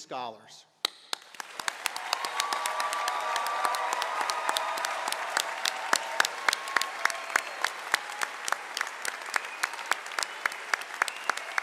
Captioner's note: applause